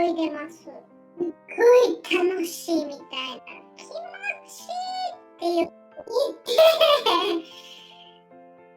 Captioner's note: laughs